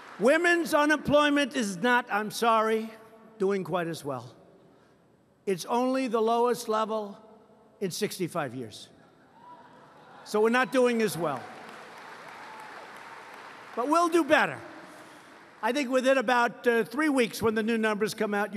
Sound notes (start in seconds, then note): 9.0 laughter; 10.7 applause